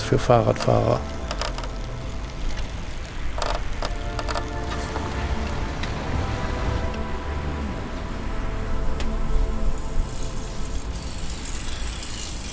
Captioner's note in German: Motorgeräusche